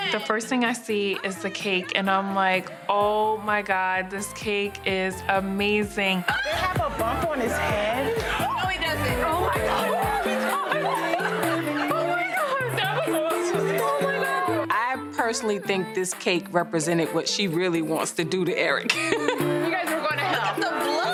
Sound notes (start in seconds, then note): 10.8 upbeat music plays; 10.8 women chattering; 18.9 laughs